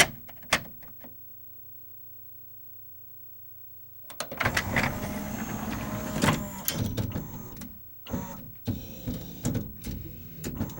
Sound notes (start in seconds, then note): 4.3 disc tray whirs in and the motor makes a few short bursts at varying speeds; 8.4 high pitched whir